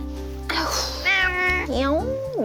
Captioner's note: meow